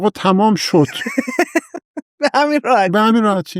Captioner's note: laughs